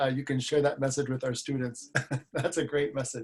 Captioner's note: laughs